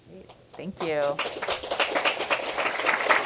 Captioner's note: applause